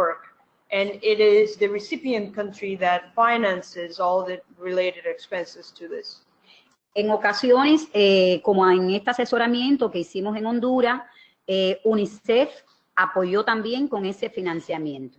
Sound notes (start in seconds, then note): 7.4 speaking another language